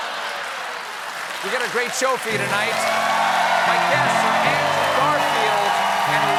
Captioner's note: applause